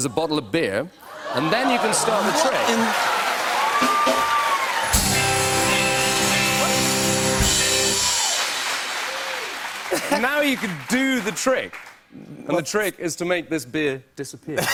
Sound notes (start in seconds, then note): 2.4 cheers and applause